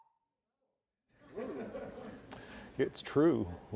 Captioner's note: laugh